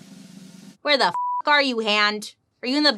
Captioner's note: beep